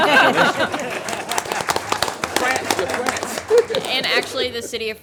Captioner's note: everyone applauds